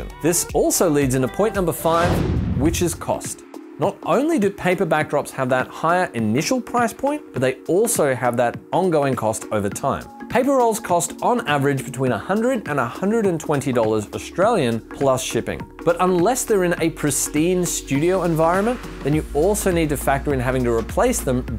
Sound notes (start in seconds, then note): 1.6 whooshing